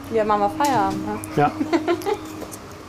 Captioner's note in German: Lachen